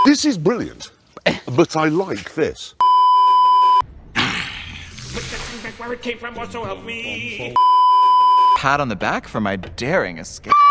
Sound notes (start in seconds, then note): 1.5 scoffs; 2.8 beeeeeep; 4.6 growl; 7.6 beeeeeep